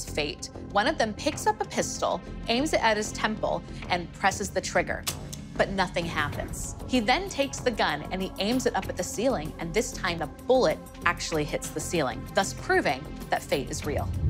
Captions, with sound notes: one of them picks up a pistol, aims it at his temple, -and presses the trigger. -[gun clicks] But nothing happens. He then takes the gun and aims it at the ceiling and this time, a bullet actually hits the ceiling, thus proving that fate is real.